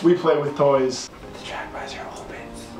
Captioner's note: whispers